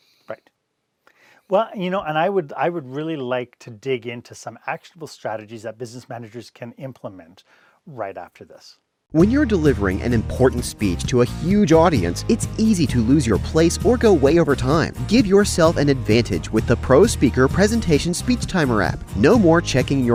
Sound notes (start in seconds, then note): 9.2 voice-over